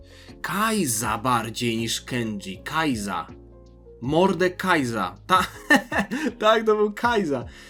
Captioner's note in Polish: śmiech